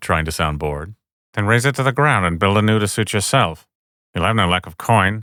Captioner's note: Tyrion voice